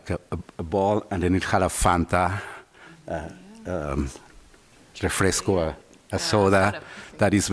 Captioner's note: spanish